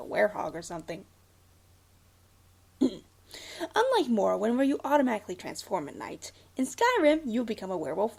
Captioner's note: clears throat